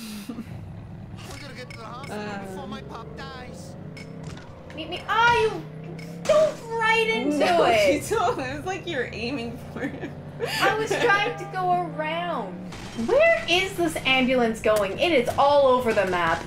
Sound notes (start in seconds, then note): 7.4 laughing